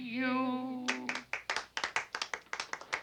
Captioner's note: clapping